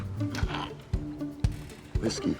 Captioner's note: french grunts